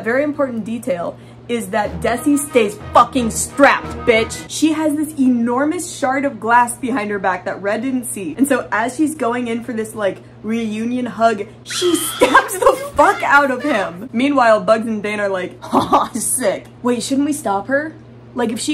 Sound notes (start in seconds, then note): 1.8 hardcore music; 11.7 screaming sound; 15.5 laughing